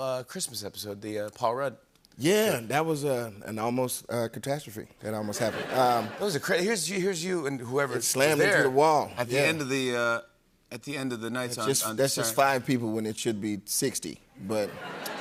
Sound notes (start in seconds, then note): 5.3 laughter